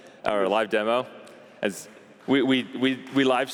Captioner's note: applause